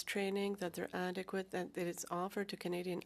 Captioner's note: speaking French